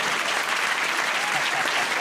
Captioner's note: applause